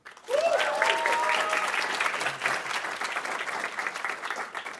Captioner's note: audience applauding